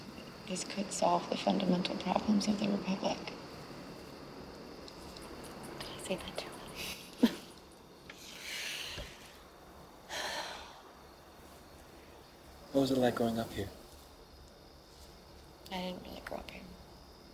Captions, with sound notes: This could solve the fundamental problems of the Republic. [whispering] Did I say that too loud? [laughs] [sighs] What was it like growing up here? I didn't really grow up here.